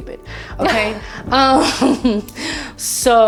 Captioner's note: laughing